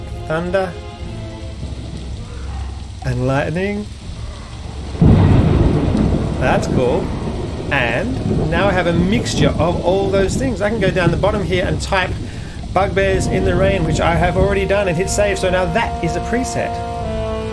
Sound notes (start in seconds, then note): 5.0 thunder cracks; 5.0 thunder storm rages